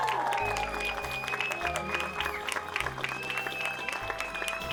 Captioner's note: cheering